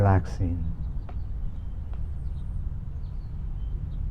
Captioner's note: birds chirping; wind blowing